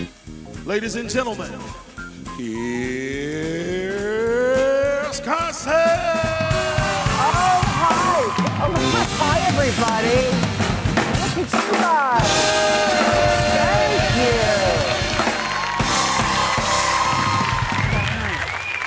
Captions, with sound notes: - Ladies and gentlemen. Here's Carson. (live band music) (audience cheering) - Oh hi. Hi everybody. Look at you guys. (live band music) Thank you. (audience cheering)